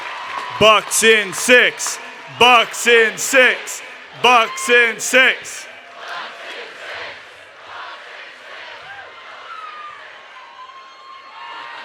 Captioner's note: crowd repeats; cheers and Applause